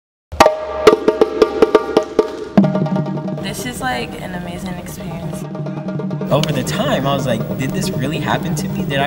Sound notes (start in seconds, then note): 0.3 energetic bongo music; 3.7 voiceover